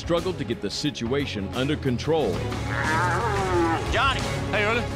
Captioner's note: cow moos